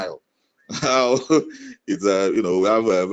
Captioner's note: chuckles